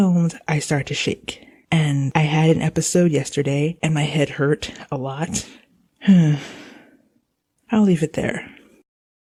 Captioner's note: sigh